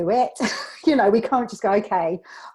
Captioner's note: laughs